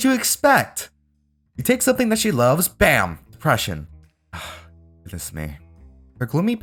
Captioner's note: sigh